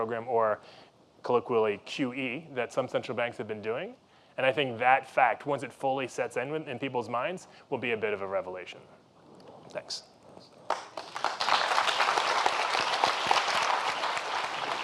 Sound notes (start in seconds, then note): 10.6 applause